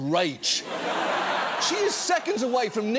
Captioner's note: audience laughs